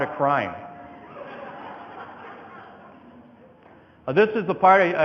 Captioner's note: audience laughing